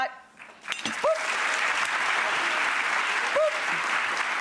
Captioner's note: audience clapping